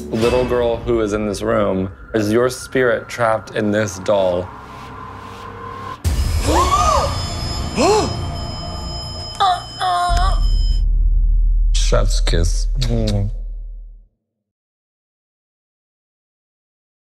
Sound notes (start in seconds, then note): 6.3 gasping